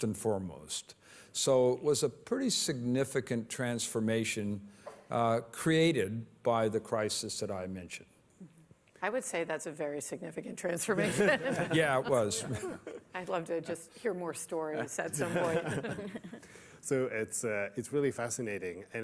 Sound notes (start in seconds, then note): 10.9 laughter